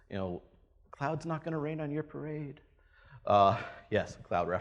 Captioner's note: laughs